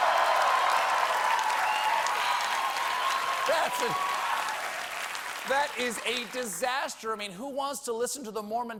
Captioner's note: cheers and applause